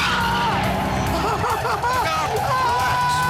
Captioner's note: motorcycle engine revs; Jeremy cries out